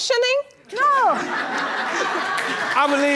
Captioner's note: audience laughing